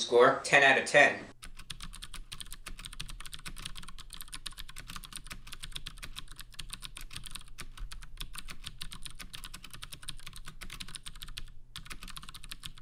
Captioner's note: keyboard typing sounds